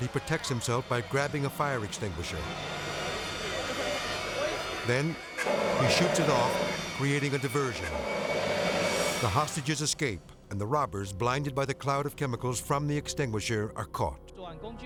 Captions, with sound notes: but he protects himself by grabbing a fire extinguisher. Then he shoots it off, creating a diversion. (extinguisher whooshing) The hostages escape and the robbers, blinded by the cloud of chemicals from the extinguisher, are caught.